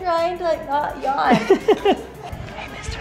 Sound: laughs

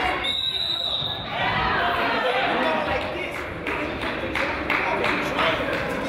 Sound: whistle blows; crowd chatters

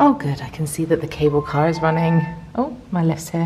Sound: lift beeping

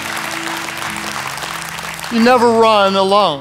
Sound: audience claps

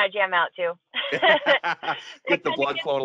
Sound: both laughing

